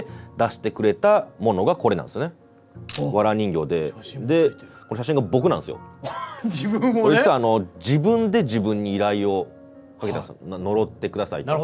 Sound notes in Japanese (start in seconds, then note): 7.1 笑い